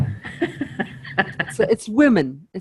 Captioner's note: chuckles